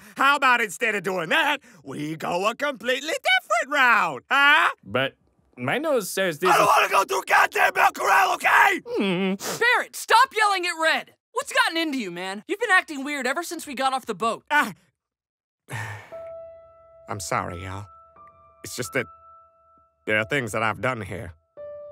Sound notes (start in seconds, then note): 8.5 Red cries like a dog; 15.7 sigh